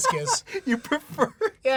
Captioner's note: laughing